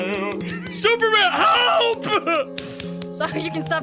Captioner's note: continues clapping